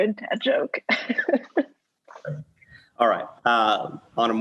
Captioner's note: laughs